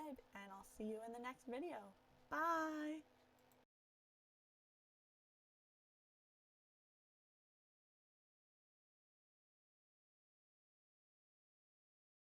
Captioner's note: awkward pause